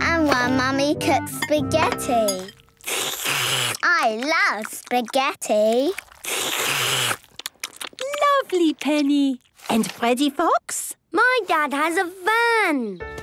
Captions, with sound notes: and one mummy cooks spaghetti! (slurping) I love spaghetti! (all slurping) - Lovely, Penny! And Freddy Fox? - My dad has a van .